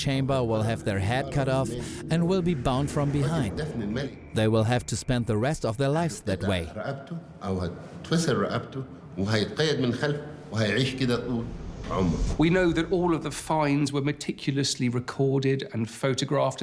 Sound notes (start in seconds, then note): 7.4 in Arabic